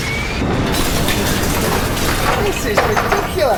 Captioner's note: artillery exploding